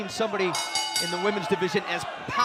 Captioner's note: bell